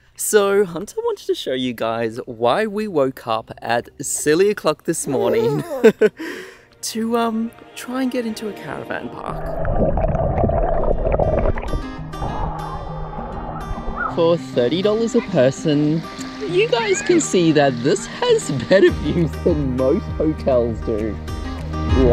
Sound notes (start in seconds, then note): 5.2 giggles; 5.2 chuckles; 9.2 water gurgles; 11.7 guitar music